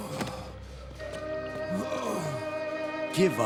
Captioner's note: grunting